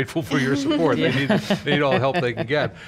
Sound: laughs

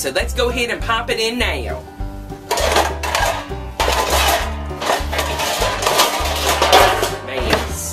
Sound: clanging, Pots and Pans Sound, Mumbling

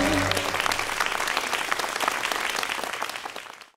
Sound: applause

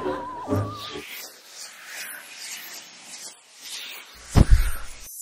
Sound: audience laughing; swooshing sounds

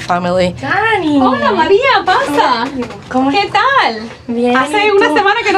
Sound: Spanish

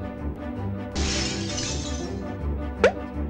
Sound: glass smashes; pop!

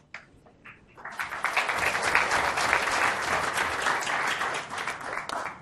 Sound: audience clapping

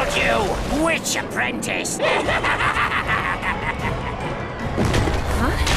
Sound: cackling

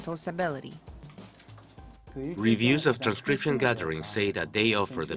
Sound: Korean

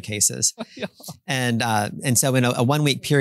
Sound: laughs

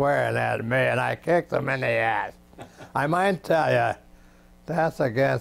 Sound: laughs

